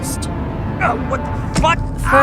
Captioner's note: screams